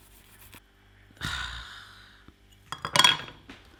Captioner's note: sighs